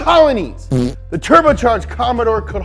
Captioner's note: fart noise